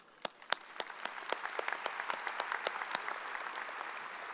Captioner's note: audience applauds